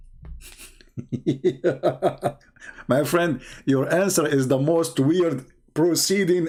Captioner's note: Ketawa